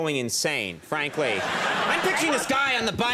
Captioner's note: audience laughing